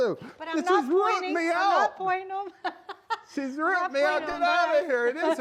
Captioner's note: light hearted arguing